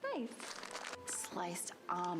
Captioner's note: crinkling noise